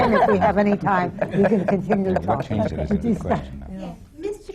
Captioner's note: laughter